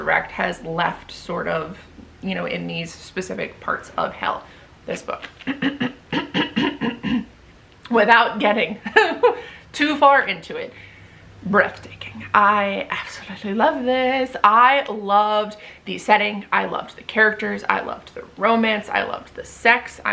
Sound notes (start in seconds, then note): 5.4 clears throat dramatically; 9.0 laughs